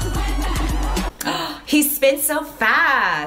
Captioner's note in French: Gasp